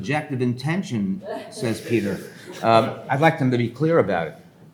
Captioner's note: attendees laughing